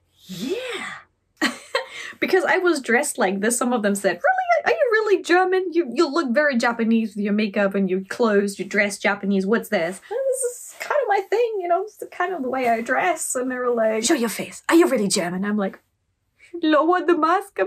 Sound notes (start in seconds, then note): 1.4 laugh